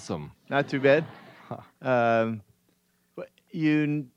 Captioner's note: audience laughs